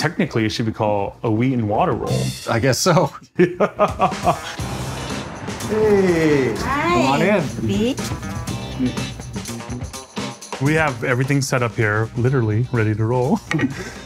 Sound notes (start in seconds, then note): 3.4 laughs; 4.4 cars passing